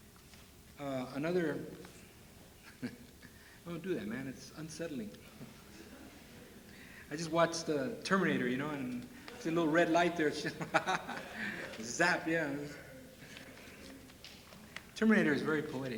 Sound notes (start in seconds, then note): 2.6 chuckles at something offstage; 6.5 laughter; 10.4 chuckles